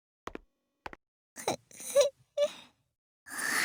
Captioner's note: sniff